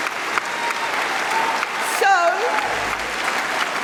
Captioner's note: cheering & Applause